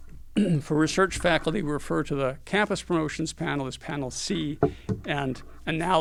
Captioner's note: cough